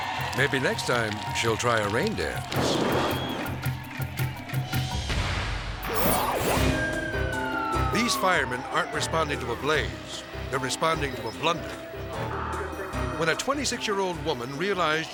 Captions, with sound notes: Maybe next time she'll try a rain dance. (rhythmic music) (logo whooshes) (siren blaring) These firemen aren't responding to a blaze. They're responding to a blunder. When a 26-year-old woman realized